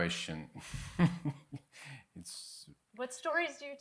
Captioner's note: chuckling